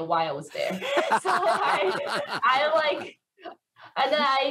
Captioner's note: laughs